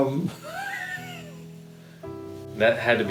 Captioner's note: chuckling